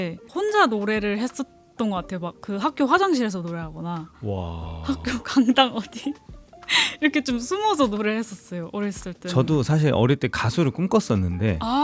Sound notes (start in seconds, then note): 4.2 laughs